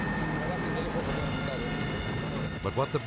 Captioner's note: officer speaking in Spanish